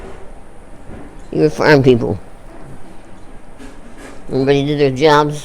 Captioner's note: dishes being moved in background